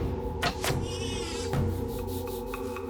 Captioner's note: boar squeals